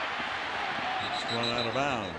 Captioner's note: whistle blows